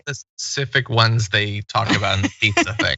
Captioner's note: laugh